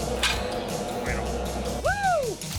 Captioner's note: clanging sound